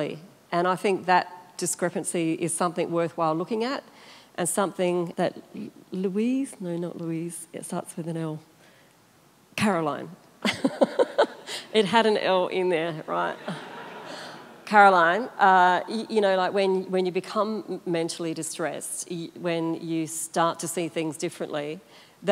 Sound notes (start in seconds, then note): 10.5 laughs; 13.2 audience laughter